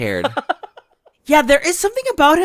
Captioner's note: laughs